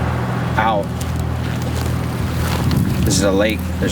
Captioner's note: footsteps crunching